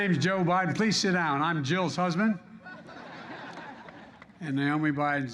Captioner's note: laughter